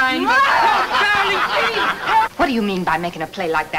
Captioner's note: angry wife shouts